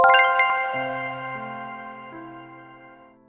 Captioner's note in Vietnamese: chuông